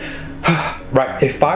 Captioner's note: sighs